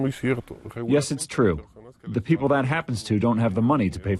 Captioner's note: through translator